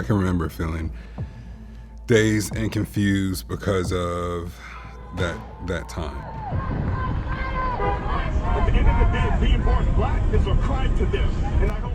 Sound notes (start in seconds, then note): 6.9 horns blaring